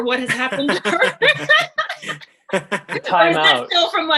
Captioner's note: laughter